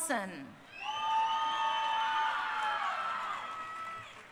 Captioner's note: crowd cheering